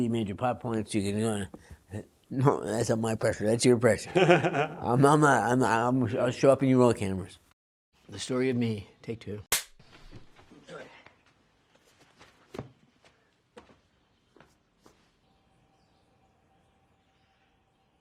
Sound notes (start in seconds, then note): 4.0 laughs; 9.5 clap